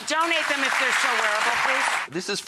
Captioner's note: audience applauds